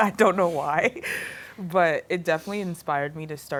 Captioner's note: laughing